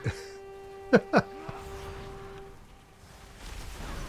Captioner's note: laughs